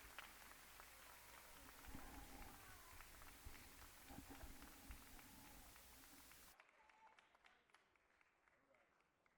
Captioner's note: cheers and applause